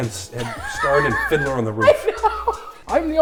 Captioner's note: hysterical laughter